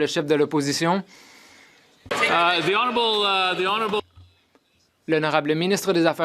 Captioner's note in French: voix de l'interprète